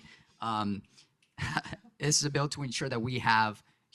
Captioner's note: laughs